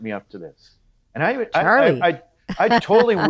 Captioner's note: laughs